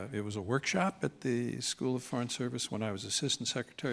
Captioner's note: none